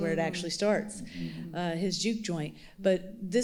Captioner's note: other panelists chuckling